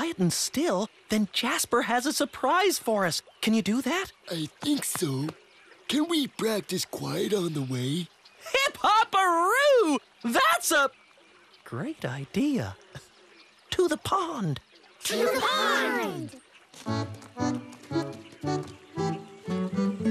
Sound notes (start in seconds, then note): 13.3 speaks quietly; 18.3 speaking quietly